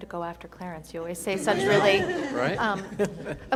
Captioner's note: attendees laughing